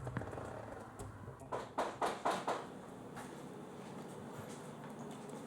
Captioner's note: knocking on door